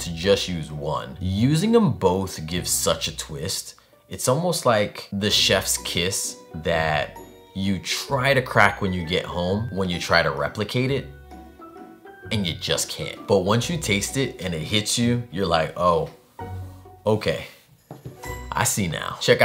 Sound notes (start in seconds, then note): none